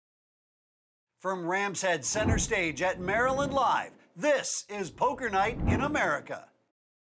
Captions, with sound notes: - [Voiceover] From Rams Head Center Stage at Maryland Live!, this is Poker Night in America.